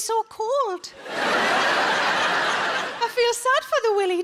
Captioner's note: audience laughs